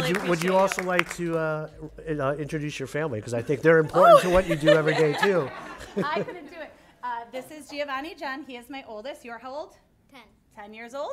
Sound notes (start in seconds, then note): 3.9 laughs